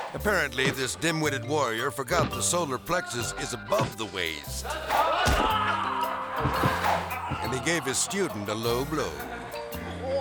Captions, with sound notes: Apparently, this dim-witted warrior forgot the solar plexus is above the waste. (student groaning) And he gave his student a low blow.